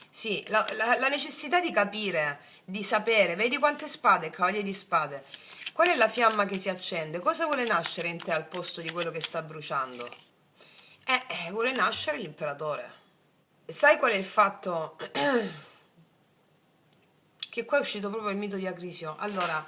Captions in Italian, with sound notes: Sì, la la la necessità di capire, di sapere, vedi quante spade, il cavaliere di spade. Qual è la fiamma che si accende? Cosa vuole nascere in te al posto di quello che sta bruciando? Eh, vuole nascere l'imperatore. Sai qual è il fatto? [schiarire la voce] Che qua è uscito proprio il mito di Acrisio. Allora